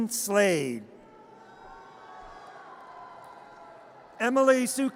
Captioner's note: audience cheers